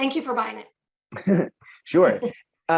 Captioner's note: laughs